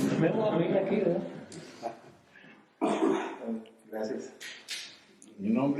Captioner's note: laughs